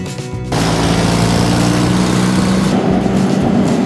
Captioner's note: water Truck Engine Sound; soil Compactor Engine Sound